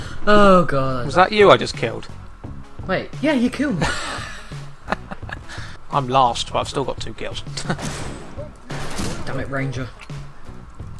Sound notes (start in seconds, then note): 7.7 gunshot